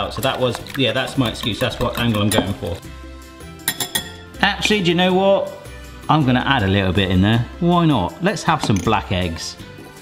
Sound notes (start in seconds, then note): 3.6 whisk tapping